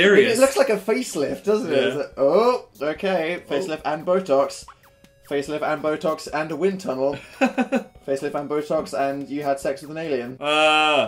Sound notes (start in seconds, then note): 7.4 laughs